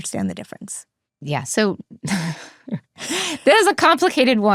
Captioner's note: chuckles